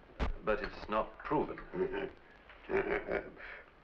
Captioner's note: chuckling